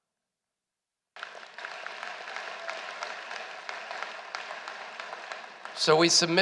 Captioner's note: applause